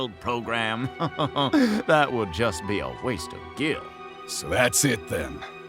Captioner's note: chuckles